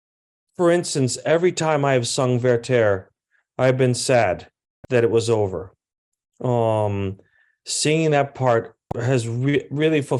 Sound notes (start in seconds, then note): none